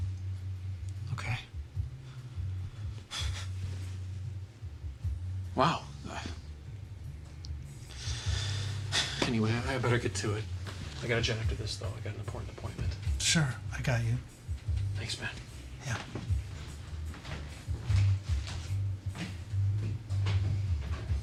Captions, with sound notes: - Okay, (sighs) wow. Anyway, I, I better get to it. I gotta jet after this though, I got an important appointment. - Sure, I got you. - Thanks, man. - Yeah. (energetic music continues)